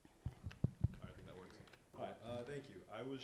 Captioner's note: mic thumps